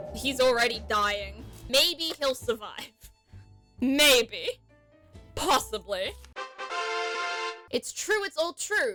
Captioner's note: victory sound